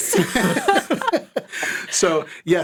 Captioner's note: all laugh